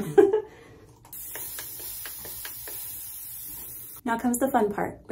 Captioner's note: water spraying sounds